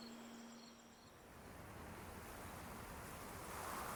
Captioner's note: wind howling